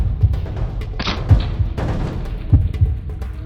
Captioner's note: arrow flying